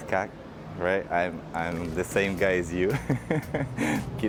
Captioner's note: giggle